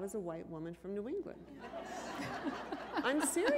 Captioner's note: laughter